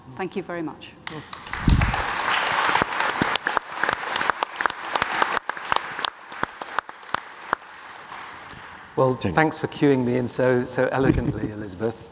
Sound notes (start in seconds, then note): 1.1 audience applauds